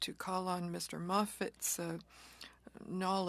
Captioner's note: speaking French